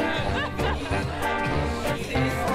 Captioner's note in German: Lachen